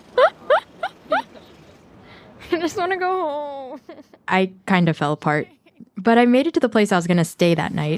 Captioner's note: laughs